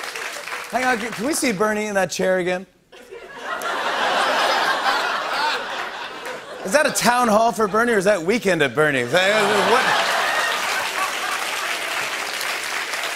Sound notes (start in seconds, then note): 0.0 normal voice; 2.9 laughter; 9.1 laughter and applause